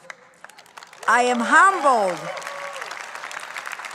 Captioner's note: audience cheering